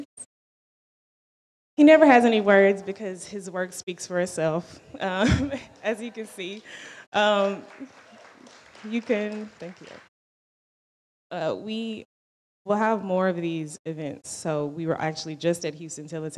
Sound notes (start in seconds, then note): 8.5 audience applauds